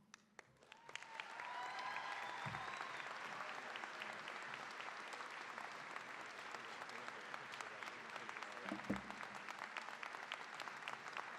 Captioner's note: cheering, applause